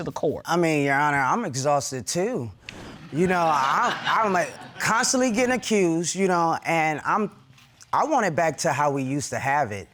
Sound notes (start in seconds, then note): 3.7 stutters